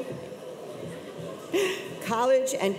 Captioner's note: chuckles